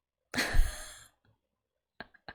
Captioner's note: laughs